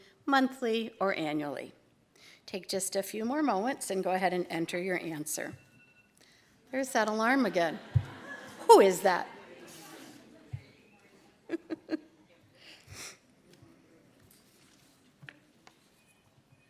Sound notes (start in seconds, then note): 5.4 alarm going off; 11.4 laughter